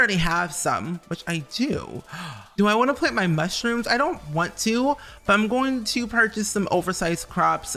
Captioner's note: gasp